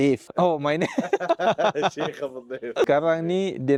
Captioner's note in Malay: ketawa